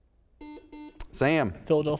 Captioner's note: buzzer sounds